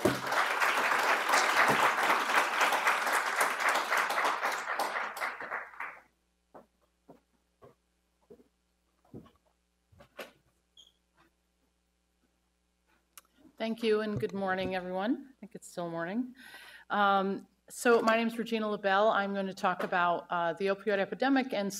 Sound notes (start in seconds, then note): 0.0 audience applauds; 7.5 footsteps thudding